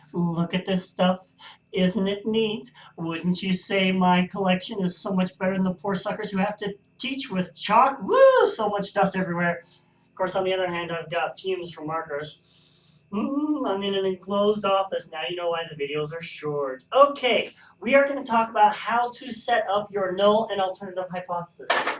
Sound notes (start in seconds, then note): 12.4 sniff